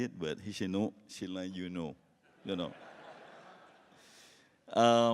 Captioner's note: laughs